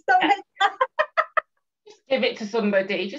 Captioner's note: laughs